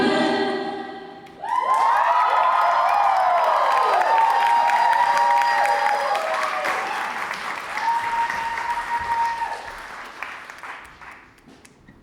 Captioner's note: audience cheers